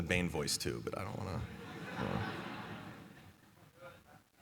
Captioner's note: laughter